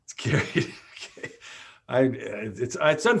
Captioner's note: laughs